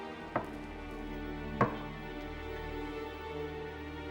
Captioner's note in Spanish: golpes